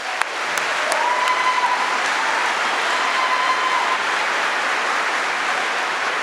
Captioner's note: applause